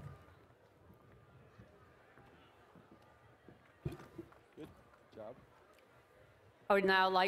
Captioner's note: applause